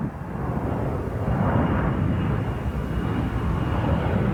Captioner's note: jet engine roaring